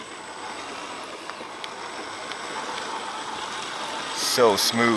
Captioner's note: soft engine roaring